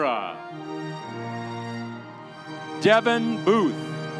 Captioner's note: audience cheering